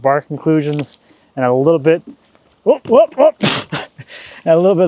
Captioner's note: laughing